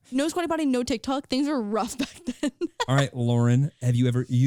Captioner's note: laughing